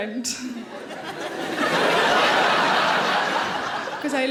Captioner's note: audience laughing